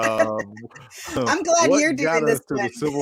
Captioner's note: chuckles; laughs